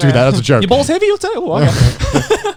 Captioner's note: laughing